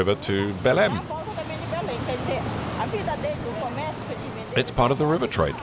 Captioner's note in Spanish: <i>habla en portugués</i>